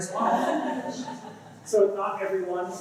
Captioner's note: laughter